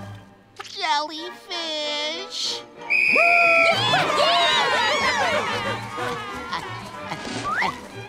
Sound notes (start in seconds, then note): 2.8 whistle blows; 4.0 shouting